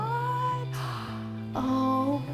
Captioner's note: gasps